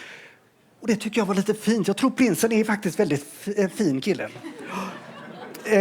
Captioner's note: laughter